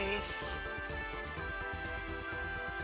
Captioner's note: sounds of a little glade